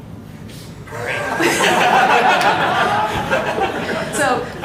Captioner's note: laughter